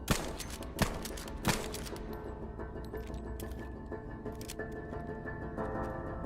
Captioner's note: gun firing continuously